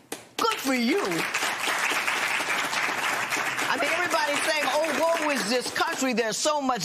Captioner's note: applause